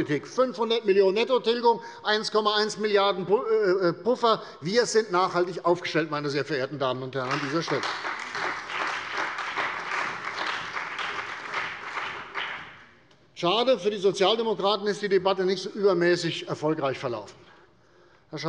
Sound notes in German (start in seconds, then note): 7.2 Beifall bei der CDU und dem BÜNDNIS 90/DIE GRÜNEN